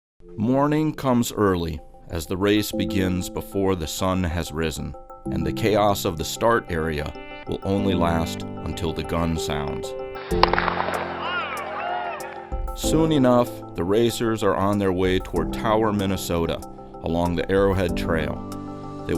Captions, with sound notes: Morning comes early, as the race begins before the sun has risen, and the chaos of the start area will only last until the gun sounds. (starting gun fires) Soon enough, the racers are on their way toward Tower, Minnesota along the Arrowhead Trail.